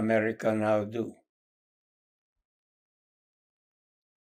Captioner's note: pauses 8 seconds